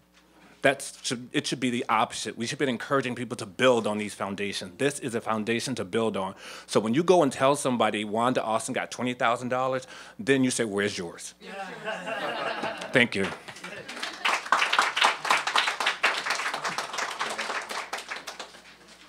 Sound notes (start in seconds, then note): 15.2 laughter; 18.8 applause